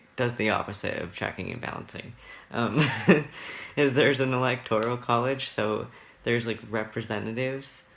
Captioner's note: laughs